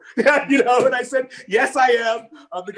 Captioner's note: laughing